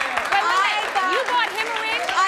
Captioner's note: applause